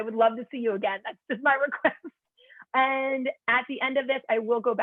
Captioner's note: laughter